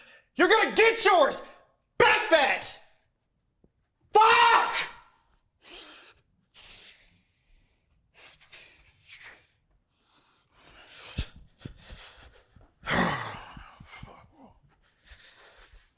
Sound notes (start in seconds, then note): 6.4 panting; 12.8 Carlton grunts